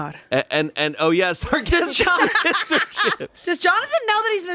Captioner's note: laughs